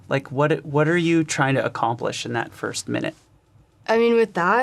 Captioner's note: none